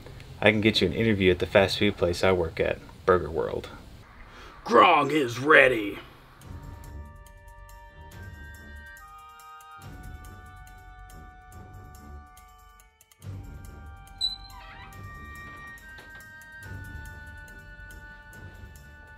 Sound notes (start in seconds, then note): 14.2 Burger World office door creeks as Grong opens it